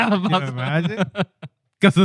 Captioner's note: laughter